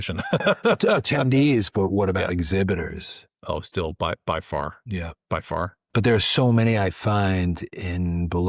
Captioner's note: laughs